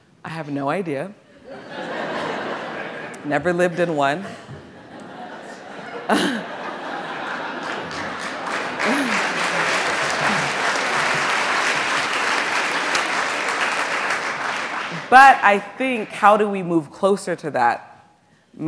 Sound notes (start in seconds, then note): 1.6 audience laughing; 4.6 audience laughing; 7.9 audience applauds